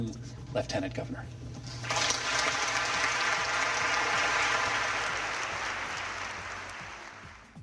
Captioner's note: applause